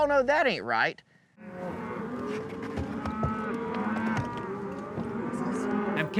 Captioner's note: cattle moo